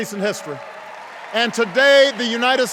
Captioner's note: cheers